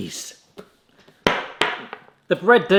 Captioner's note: slapping hand